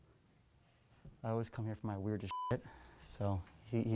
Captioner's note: beep